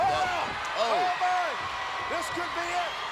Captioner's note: commentators exclaim